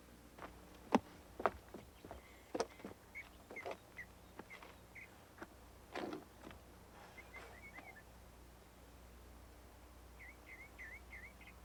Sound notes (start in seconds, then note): 3.3 birds chirping